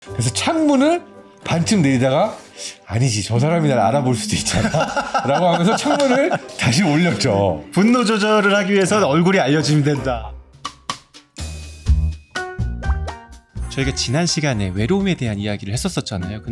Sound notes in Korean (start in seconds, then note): 0.2 흥미로운 음악; 4.4 웃음; 10.6 유쾌한 음악